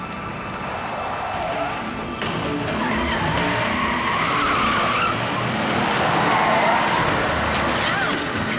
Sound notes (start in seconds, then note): 0.0 tires screeching